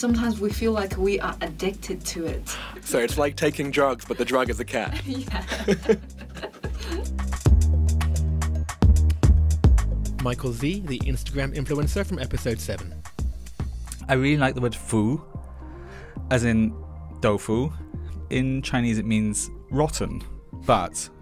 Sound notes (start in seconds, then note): 6.8 voiceover